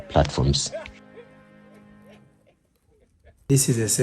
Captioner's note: people laughing